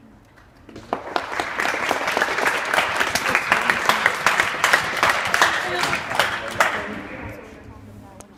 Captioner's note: clapping